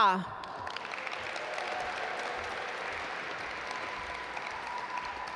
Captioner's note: audience applaud